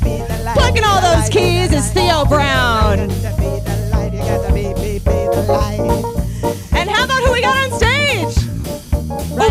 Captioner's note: ad libbing